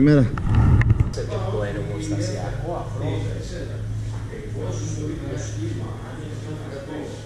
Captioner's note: indistinct chatter about the saddle and my problem with it